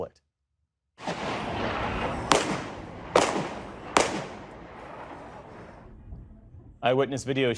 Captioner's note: gunshots